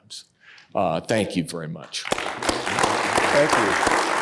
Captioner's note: audience applauding